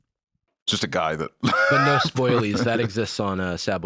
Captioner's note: laughs